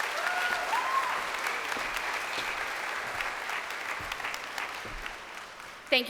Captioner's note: crowd applauding and cheering